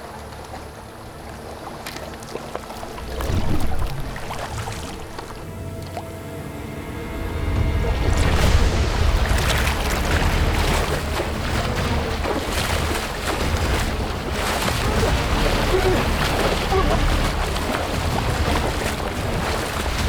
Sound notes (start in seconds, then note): 3.1 water splashing; 7.1 music intensifies; 8.7 dramatic music; 8.7 water splashing; 15.0 man gurgling; 15.0 water splashing